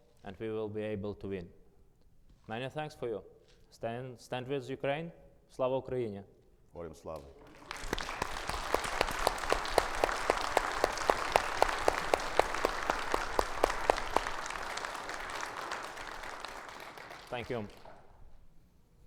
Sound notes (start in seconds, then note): 5.6 speaking in foreign language; 6.9 speaks in foreign language; 8.7 audience applauds